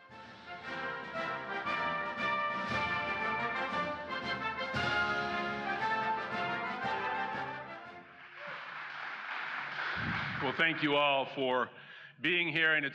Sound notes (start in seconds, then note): 0.0 patriotic Music; 5.1 applause